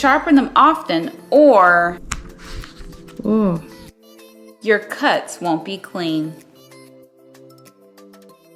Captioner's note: disappointed groan